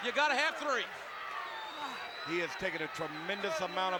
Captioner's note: applause